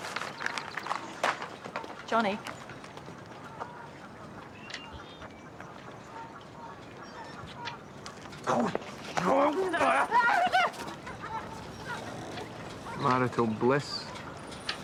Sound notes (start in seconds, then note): 9.6 John grunts; 9.7 yelps